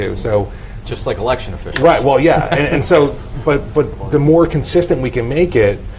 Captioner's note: laughs